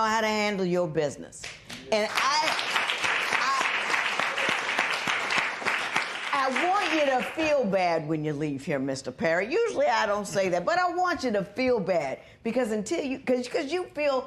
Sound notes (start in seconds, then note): 3.8 applause